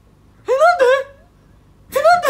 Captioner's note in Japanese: 高い声で